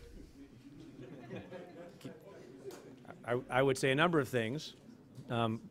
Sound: laughing

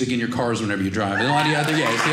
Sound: audience cheering

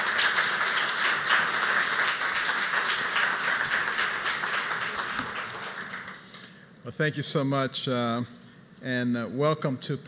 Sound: applause

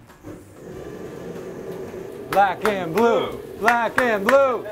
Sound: metal wok clanging; chanting and clapping

